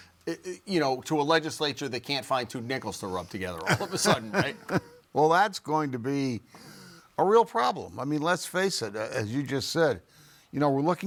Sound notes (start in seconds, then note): 3.6 chuckling